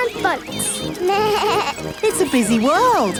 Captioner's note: bleats